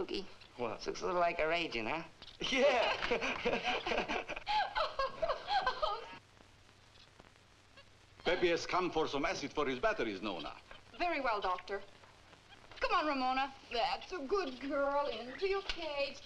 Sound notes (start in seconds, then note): 2.4 chuckles; 2.5 Duke and Nona laughing